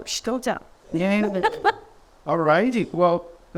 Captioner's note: laughs